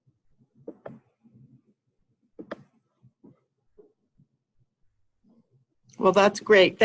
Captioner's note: silence